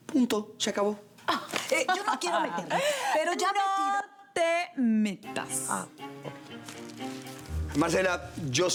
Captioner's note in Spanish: Teresa Cristina ríe